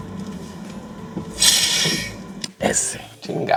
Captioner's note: air scaping